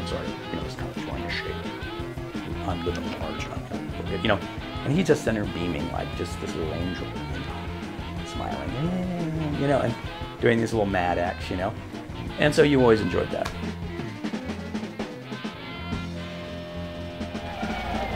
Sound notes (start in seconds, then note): 8.3 humming; 14.2 song ends, cheers and applause